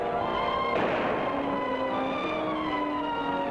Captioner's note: guns fires